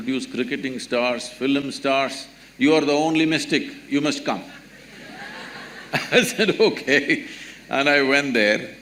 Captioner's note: laughter